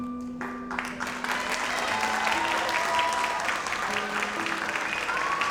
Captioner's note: audience applauds